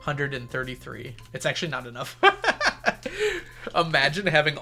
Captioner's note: laughs